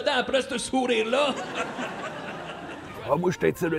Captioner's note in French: rires